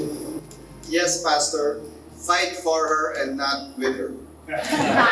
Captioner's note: laughs